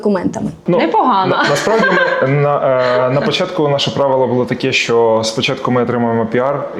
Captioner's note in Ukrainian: сміх